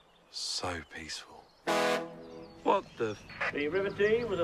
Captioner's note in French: le klaxon du navire sonne